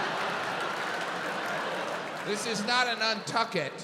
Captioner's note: audience applauding